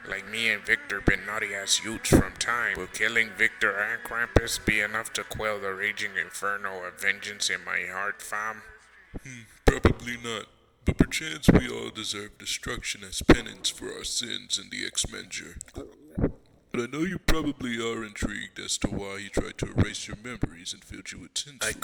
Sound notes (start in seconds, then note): 15.6 glug glug